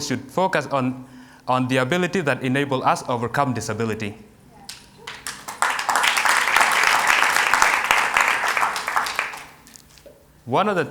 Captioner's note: applause